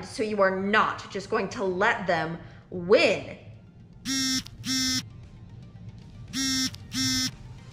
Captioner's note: phone vibrates